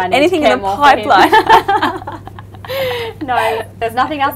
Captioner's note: laughs